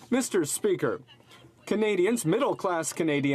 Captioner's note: some Applause